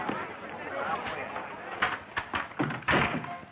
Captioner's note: none